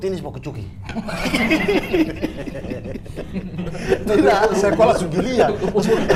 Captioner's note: laughing